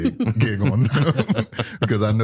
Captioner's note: laughter